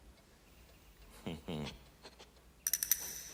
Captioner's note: chuckles